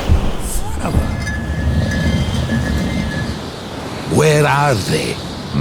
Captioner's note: stone scrapes